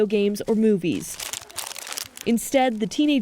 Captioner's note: paper crackling